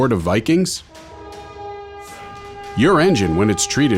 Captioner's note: horn blaring